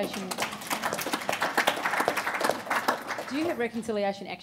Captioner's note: applauding